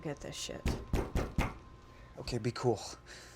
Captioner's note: loud knocking